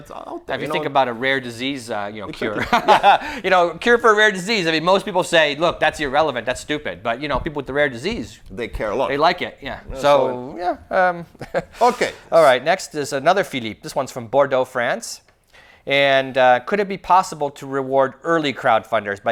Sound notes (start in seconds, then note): 2.4 laughs; 11.2 laughs